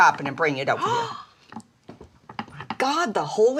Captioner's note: Dory gasps